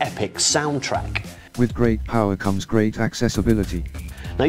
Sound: narrator speaks

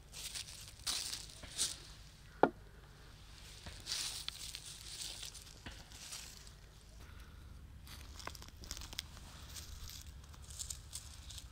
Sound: sound of nature

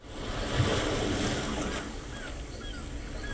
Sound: ocean waves crashing; seaguls cawing in the distance

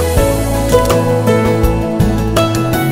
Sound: clicking photo

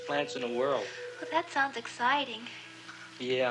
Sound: sighs

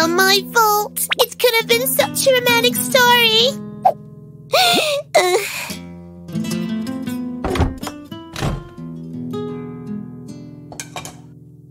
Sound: sigh

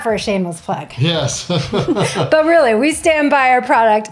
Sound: laughs

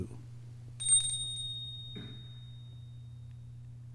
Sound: bells ringing

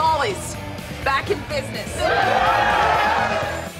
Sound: cheering

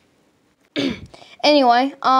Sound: ahem

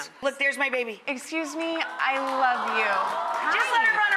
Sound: audience coohs

